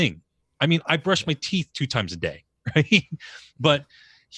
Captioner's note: laughs